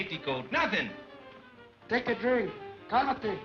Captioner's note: speaks Spanish